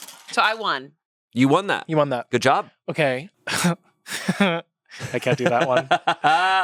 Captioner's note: laughs